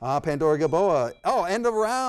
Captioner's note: bell tings